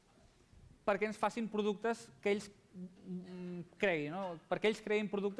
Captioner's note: non-english speech